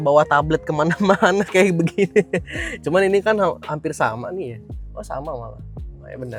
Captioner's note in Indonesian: tertawa